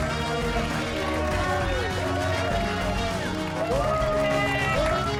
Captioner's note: cheers and applause